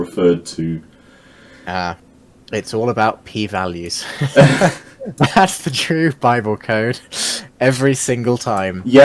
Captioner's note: both laughing